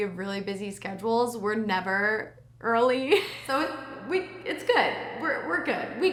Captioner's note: laughs